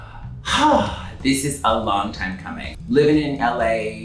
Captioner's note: sighs